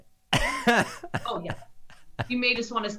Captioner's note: laughing